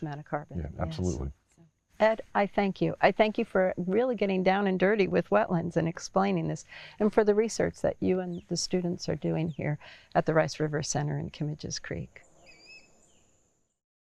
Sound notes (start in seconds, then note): 12.4 birds chirping